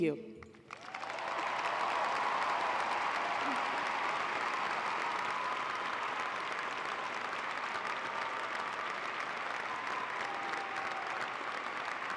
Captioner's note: applause